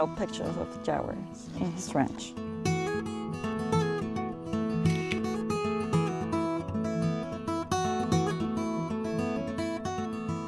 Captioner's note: guitar/camera click